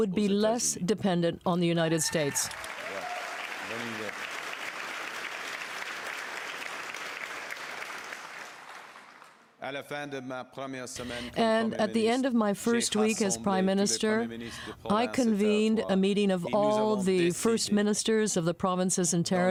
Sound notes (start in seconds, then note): 5.5 applause